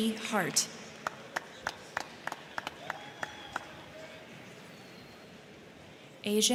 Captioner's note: crowd clapping; crowd cheering